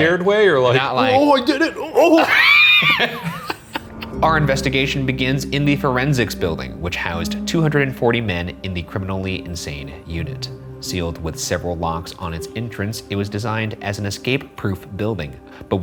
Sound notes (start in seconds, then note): 1.1 laughs